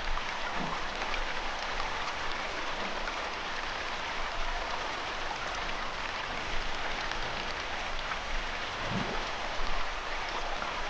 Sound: water, cicadas

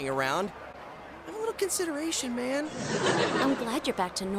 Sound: audience laughs

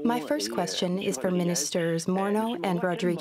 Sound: speaking French

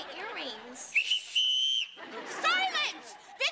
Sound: whistling

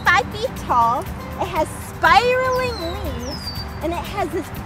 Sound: bird whistling in background

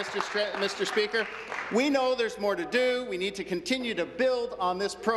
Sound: applause

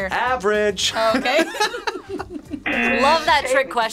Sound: group laughs; buzzer

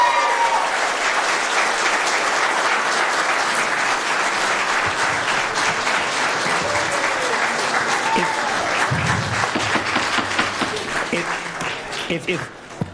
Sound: cheering/Applause

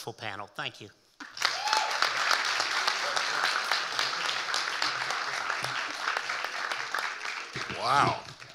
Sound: audience cheering and applauding

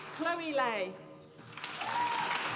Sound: applause

